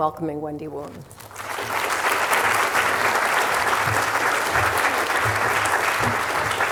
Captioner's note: applause